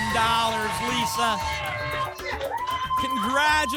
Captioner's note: applause and cheering